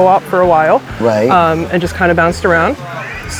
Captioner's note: rain pattering